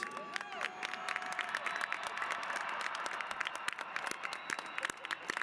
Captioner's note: applause